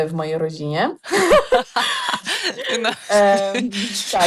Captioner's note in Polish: śmiech